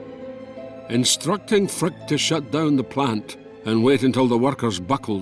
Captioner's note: Voz en off